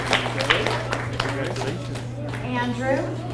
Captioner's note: audience applauds